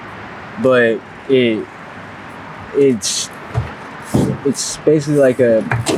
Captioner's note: chuckles